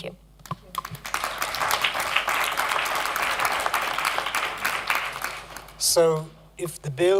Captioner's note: applause